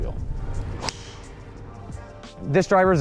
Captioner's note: club smacking ball